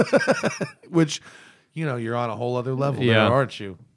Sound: laughter

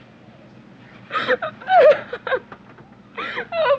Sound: Anne crying

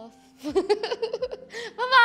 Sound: laughs

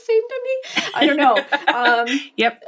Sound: laughing

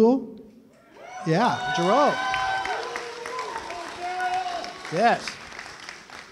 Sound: cheering

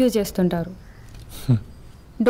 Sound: scoffs

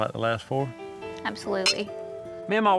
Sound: glasses clink

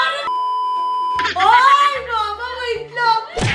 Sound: screams

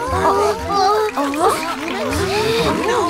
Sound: indistinct murmurs

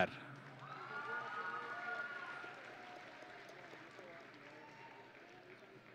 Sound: audience and graduates cheering

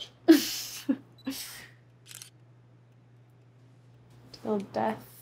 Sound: camera shutter clicking

